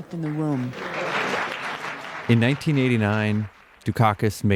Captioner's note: audience applauding